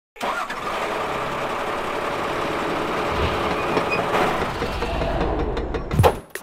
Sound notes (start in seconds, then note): 0.2 engine starts up